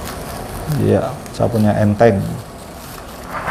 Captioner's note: PET film noise